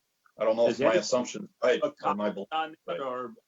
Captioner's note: murmurs